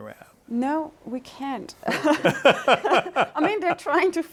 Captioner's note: chuckles; laughing